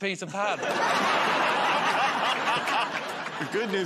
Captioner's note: laughter